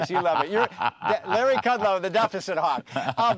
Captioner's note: laughter